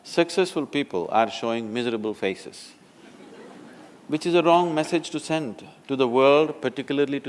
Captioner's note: laughter